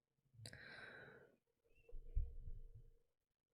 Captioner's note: breathes in